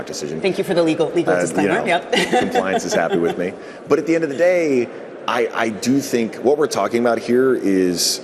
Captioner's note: laughter